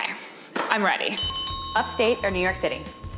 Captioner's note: bell ringing